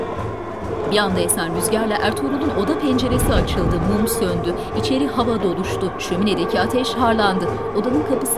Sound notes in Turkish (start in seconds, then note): 3.2 Dua sesleri